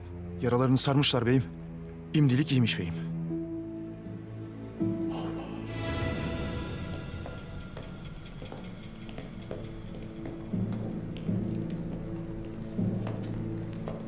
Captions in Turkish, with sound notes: Yaralarını sarmışlar beyim. Şimdilik iyiymiş beyim. Allah’ım. (Müzik - Gerilim) (Ayak sesleri)